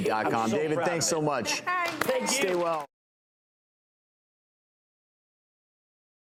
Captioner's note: people clapping